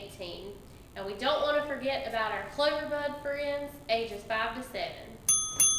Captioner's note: ding Ding